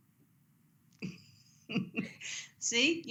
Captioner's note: laughter